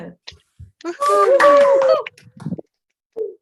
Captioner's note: cheers